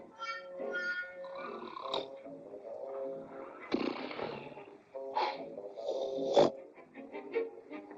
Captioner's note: playful music; Mere snoring; upbeat music